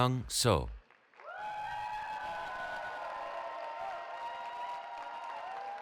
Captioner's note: cheering